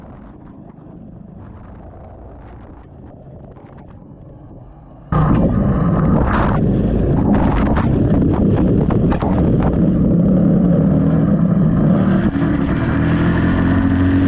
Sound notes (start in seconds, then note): 0.0 underwater & Engine Sounds